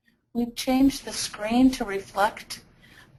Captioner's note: voiceover